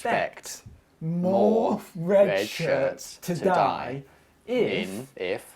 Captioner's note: echoing; echoing